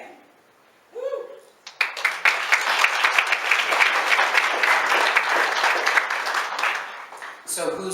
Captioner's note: applause